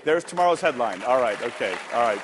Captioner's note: applause